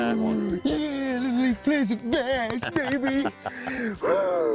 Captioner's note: giggling